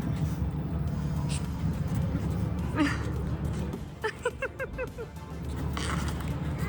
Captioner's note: laughing; upbeat music